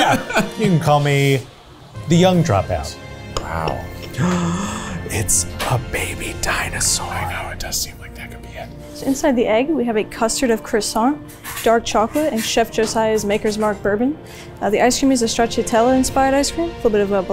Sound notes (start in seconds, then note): 4.0 gasps